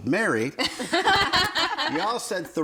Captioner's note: everyone laughing